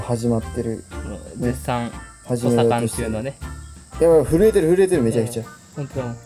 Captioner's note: laughs